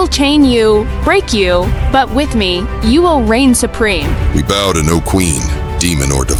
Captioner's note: voice like thunder